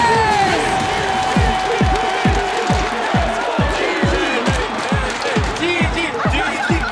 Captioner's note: crowd cheering, chanting